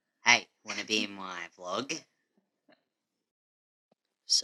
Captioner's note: laughing